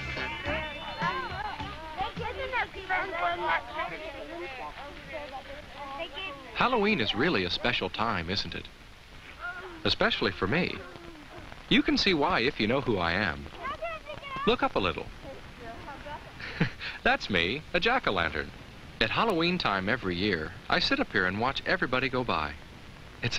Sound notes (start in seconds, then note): 16.2 chuckles